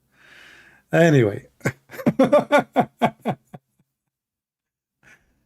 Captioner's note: Ketawa